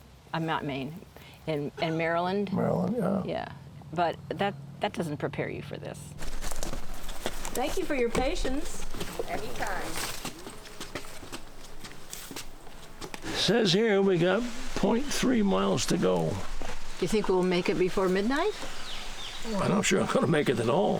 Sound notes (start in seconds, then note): 18.2 birdsong